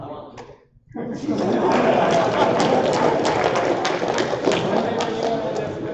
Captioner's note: applause